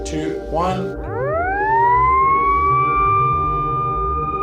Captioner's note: siren blaring